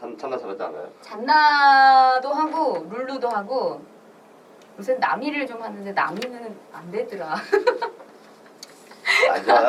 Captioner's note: laughs